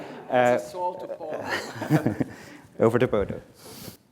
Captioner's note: laughter